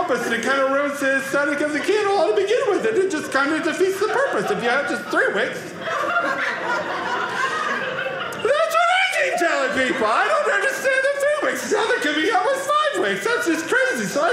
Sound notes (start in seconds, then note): 5.8 audience laughing